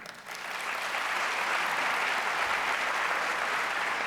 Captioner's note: audience applauds